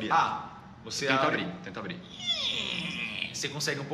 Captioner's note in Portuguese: porta rangendo